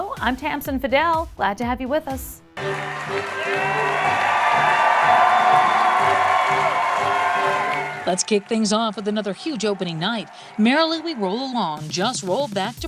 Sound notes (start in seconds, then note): 3.1 audience applause